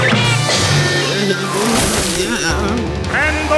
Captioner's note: groaning